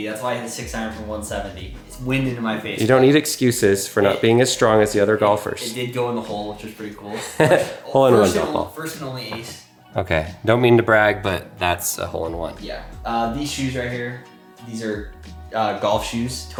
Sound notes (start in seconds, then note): 7.0 laughs